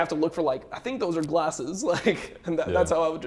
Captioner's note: laughs